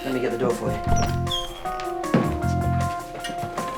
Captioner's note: card reader buzzes